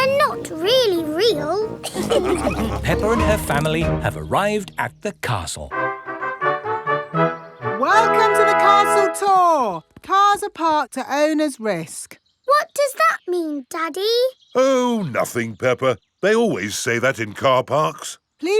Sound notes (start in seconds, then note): 1.8 all laughing; 5.6 fanfare playing